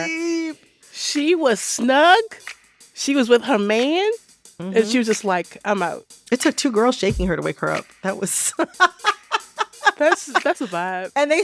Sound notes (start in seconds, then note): 8.4 laughter